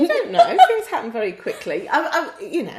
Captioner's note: laughs